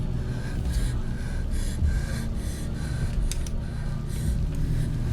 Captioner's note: respira fuertemente